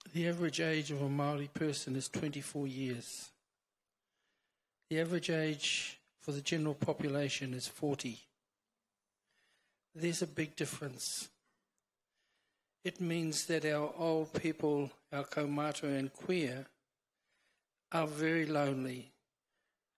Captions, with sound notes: the average age of a Maori person is 24 years. The average age for the general population is 40. There's a big difference. It means that our old people, our (foreign language) are very lonely.